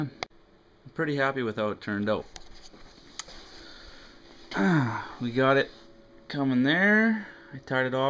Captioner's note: grunts